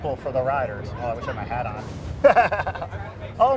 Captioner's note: laughs